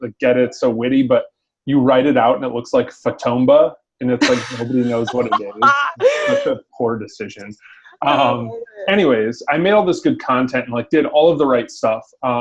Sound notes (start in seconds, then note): 4.2 laughing